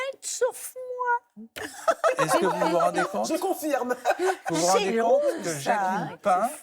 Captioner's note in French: rires